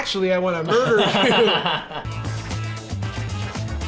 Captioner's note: laughing; funky music